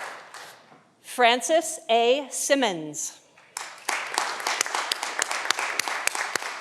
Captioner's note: audience applauding